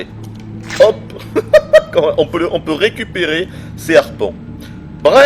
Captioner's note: giggles